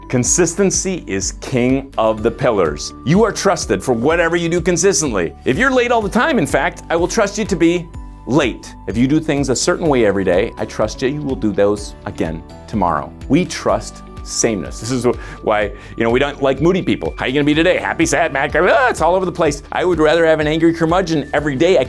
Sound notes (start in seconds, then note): 17.8 exclaims